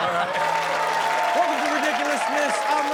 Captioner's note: audience laughs; audience cheering